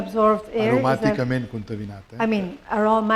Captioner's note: speaking spanish